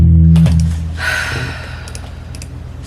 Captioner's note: sigh